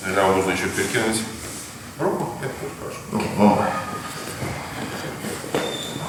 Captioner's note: speaking in a foreign language